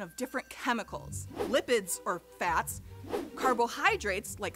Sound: whooshing

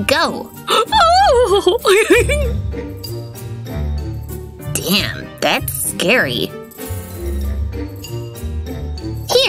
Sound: sounds of uncontrolled happiness

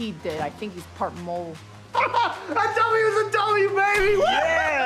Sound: laughs

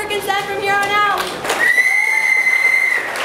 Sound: whistle

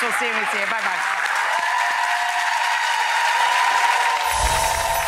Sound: audience applauds

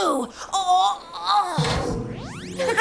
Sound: grunts; laughing

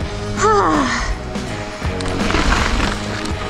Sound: sighs

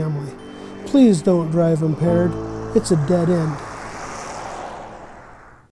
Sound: car driving

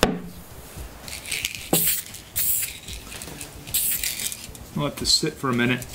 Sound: spraying paint

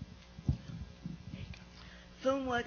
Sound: whispers

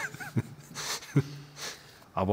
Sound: mischievous laughter

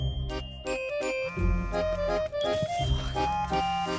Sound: cell phone vibrating

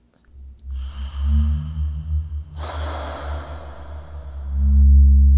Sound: demonic Gasping

